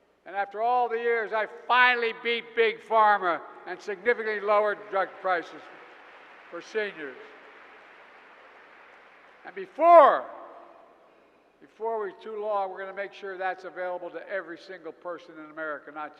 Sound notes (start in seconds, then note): 7.7 applause